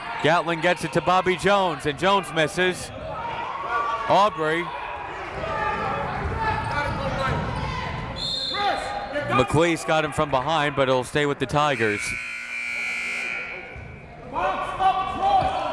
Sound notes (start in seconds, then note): 8.1 whistle; 11.6 buzzer